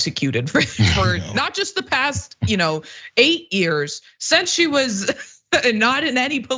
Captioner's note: laugh